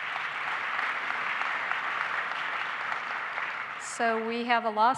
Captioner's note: applause